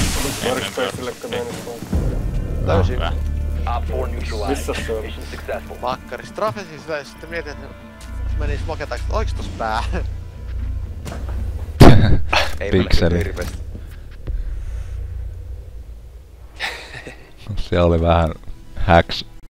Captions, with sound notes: Workspace, you meant to plant? Found him. -Good. Where was he? At Master Bedroom... was strafing and thought - - went behind smoke, 'was there a head?' [chuckle] [chuckle] To a pixel. -Didn't see an awful lot. [chuckle] That was a bit - hacks.